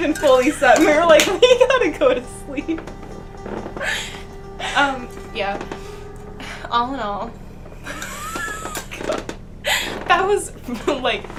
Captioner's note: laughing